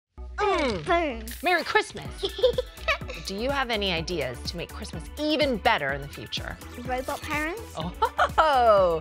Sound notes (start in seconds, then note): 2.2 giggles